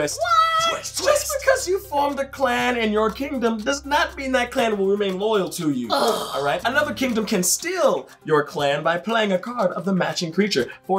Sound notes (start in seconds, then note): 5.9 groans